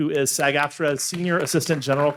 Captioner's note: audience applauding